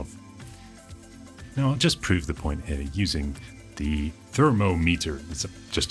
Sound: American accent

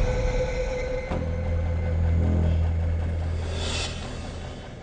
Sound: idling engine

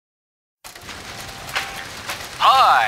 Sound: raining

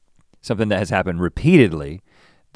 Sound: none

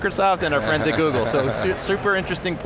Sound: laughing

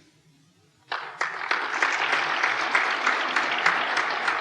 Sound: applause

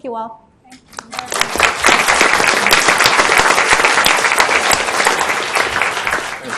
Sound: audience clapping

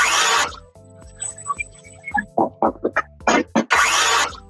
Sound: sawing

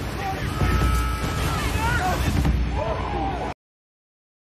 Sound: men shrieking

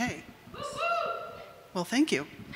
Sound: audience member hoots

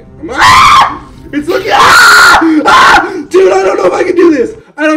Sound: screams

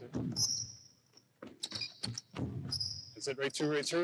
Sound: shoes squeaking

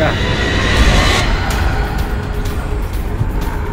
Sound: Jason growls

